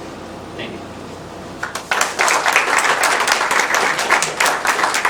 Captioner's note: applause